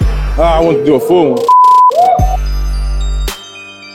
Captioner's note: beep; tense music